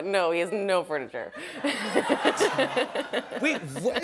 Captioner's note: laughter